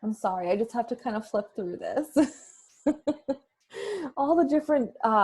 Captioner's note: laughs